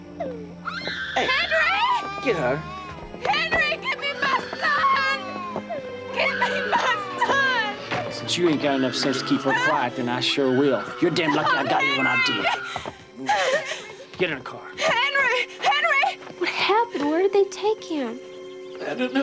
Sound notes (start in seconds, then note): 0.6 Henry screaming